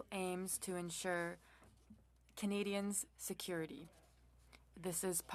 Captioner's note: speaking French